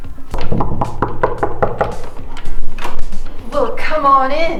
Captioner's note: knocking sounds